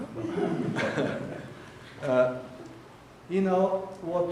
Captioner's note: audience laughing